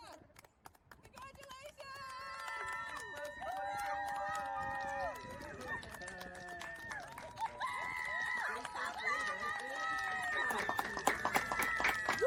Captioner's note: clapping and cheering